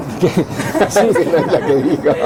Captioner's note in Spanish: risas